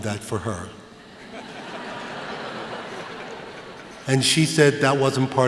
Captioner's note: laughter